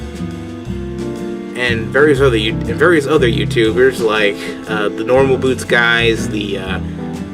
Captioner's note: stutter